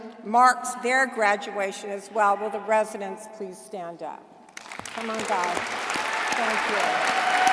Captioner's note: applause